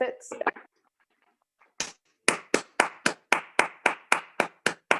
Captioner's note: clapping